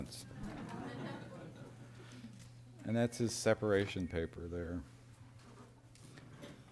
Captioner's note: laughter